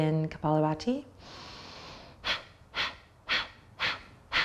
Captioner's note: sharp exhales repeatedly